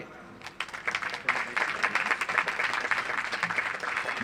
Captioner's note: audience applauds